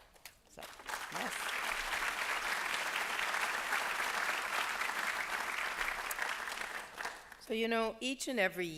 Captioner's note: applause